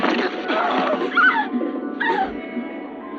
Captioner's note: yelling